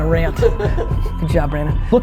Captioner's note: laughing